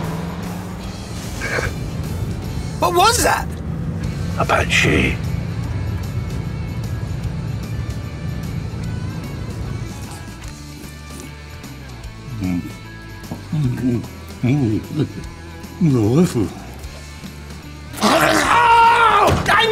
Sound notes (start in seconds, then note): 12.7 mumbling